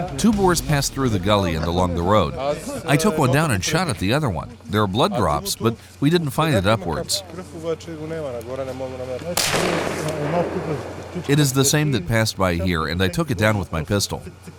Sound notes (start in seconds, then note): 9.4 gunshot